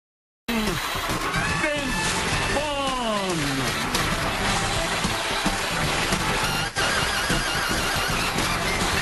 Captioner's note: cheers and applause